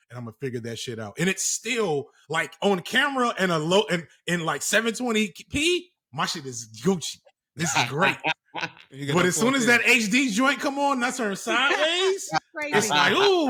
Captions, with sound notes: And I'm going to figure that shit out. And it's still like on camera and in like 720p-- my shit is goochy. This is great. [LAUGHTER] But as soon as that HD joint come on, that's her sideways. It's new.